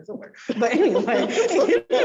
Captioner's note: all laugh